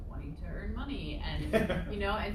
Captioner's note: laughter